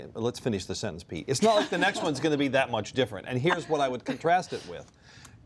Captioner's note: laughter